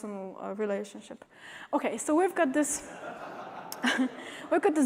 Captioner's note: laughter